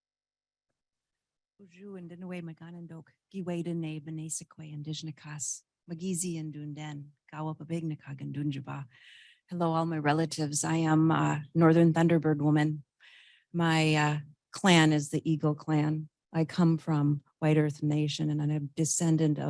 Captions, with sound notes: (speaking indigenous language) - Hello, all my relatives. I am a Northern Thunderbird woman. My clan is the Eagle clan. I come from white earth nation and I'm a descendant